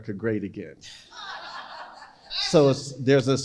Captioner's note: crowd laughing